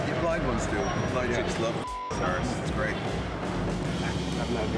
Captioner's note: beep